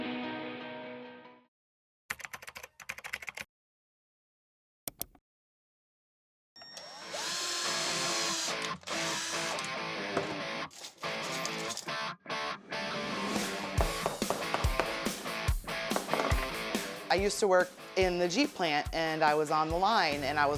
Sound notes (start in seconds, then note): 0.0 upbeat music; 2.1 keyboard clacking; 4.9 mouse clicking; 6.6 tool whirring; 8.2 upbeat music; 13.9 hammer thudding